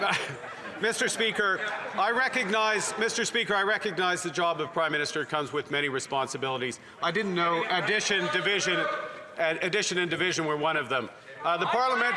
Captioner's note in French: voix de l'interprète